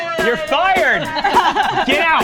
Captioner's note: laughs